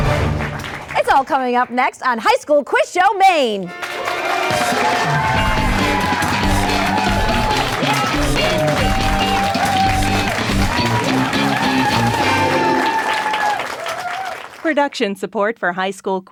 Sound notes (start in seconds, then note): 4.0 energetic music; 4.0 applause